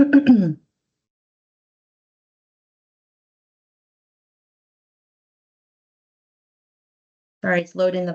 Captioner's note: silence